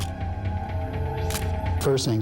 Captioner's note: camera shutter click